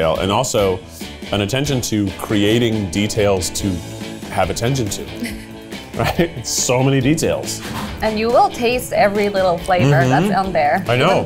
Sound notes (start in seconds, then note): 5.9 laughs